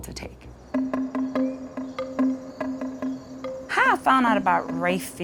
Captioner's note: crickets chirping; light dramatic music